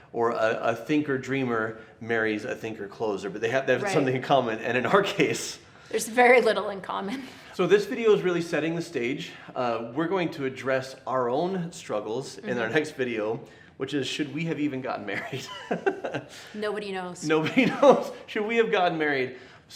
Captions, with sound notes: Or a thinker dreamer marries a thinker closer. But they have something in common. And in our case, - There's very little in common. - So this video is really setting the stage. We're going to address our own struggles in our next video which is, should we have even gotten married? (laughs) - Nobody knows. - Nobody knows. Should we have gotten married?